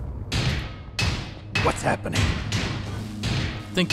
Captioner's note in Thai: โป๊ก!!ๆๆๆ